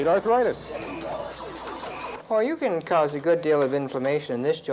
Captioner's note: electronic beeping